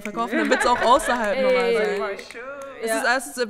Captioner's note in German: Schnipsen